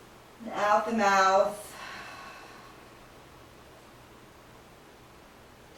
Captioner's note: breathing sounds